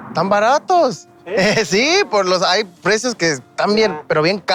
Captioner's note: speaking in Spanish